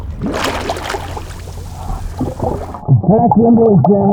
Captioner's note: water splashing